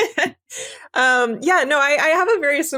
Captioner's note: laugh